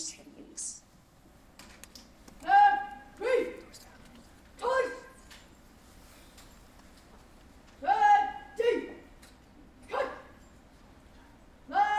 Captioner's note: indistinct chatter